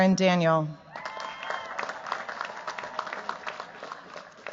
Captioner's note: cheers, applause